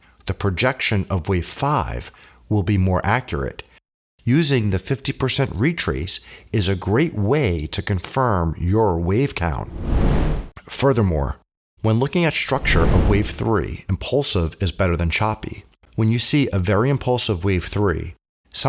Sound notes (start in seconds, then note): 9.6 air whooshing